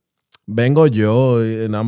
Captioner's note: speaking In Foreign Language